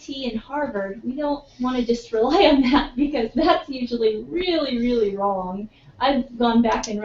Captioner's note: laugh